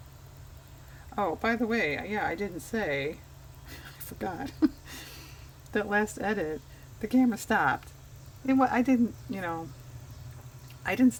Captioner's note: laughs